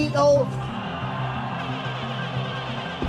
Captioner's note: crowd cheering